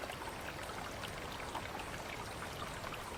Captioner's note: water flowing